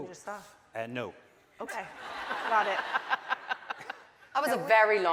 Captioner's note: audience laughing